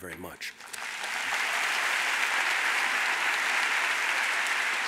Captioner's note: audience applauds